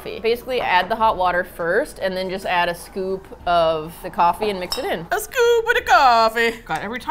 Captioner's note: attempting Italian accent